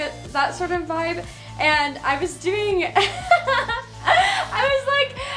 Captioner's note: laughs